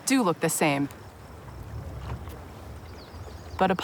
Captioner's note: water flowing